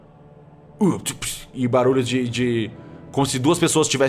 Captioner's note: urgh